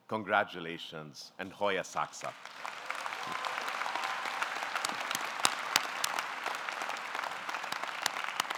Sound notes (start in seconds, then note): 1.8 speaking in foreign language; 2.1 audience clapping